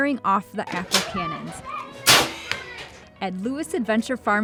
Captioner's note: cannon clanking